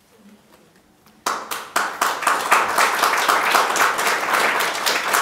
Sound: audience clapping

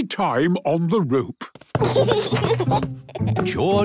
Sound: giggles

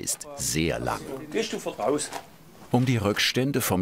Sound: soft speaking

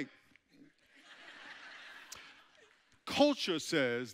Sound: audience chuckling

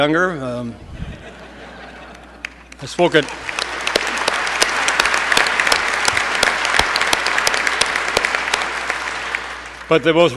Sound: laugher, applause

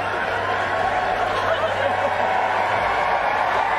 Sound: cheering; laughter; cheering

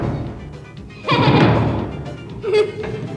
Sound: laughs

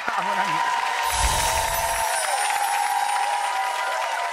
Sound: clapping

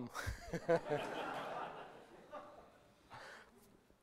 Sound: laughter

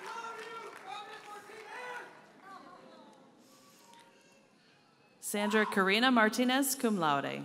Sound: audience cheers and applauds; speaking Spanish

